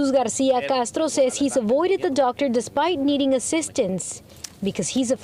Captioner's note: speaking spanish